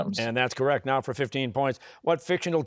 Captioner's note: none